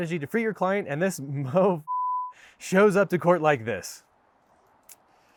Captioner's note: beep